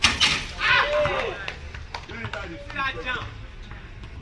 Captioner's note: cheering